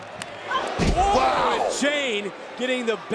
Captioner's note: body thudding